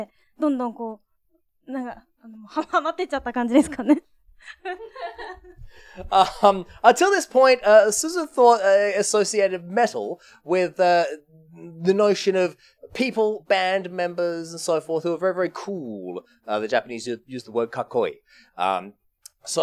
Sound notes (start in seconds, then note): 4.4 laughs